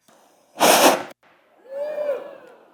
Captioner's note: flame hisses